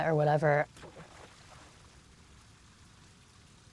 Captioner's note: splashing